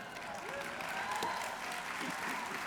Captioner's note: applause